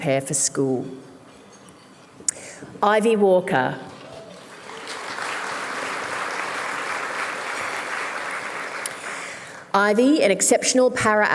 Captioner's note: applause